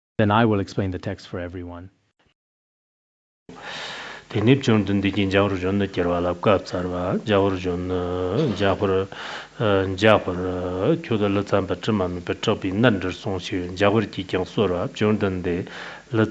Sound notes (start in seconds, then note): 4.2 giving oral transmission in Tibetan